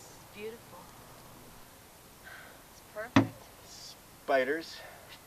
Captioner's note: smack